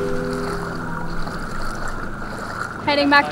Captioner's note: wind whistles